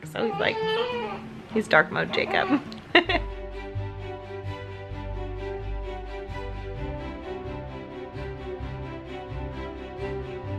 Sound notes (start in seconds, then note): 2.4 chuckles; 4.0 uplifting strings music